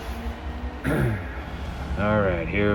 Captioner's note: clears throat